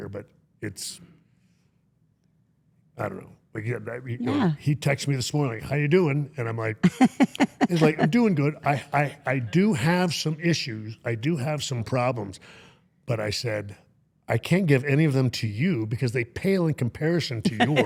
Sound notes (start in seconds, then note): 6.8 interviewer chuckling